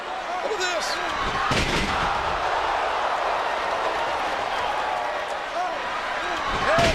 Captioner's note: applause